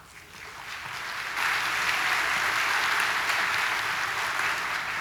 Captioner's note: audience applauding